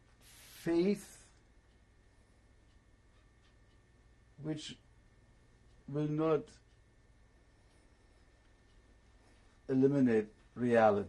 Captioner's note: pauses for 3 seconds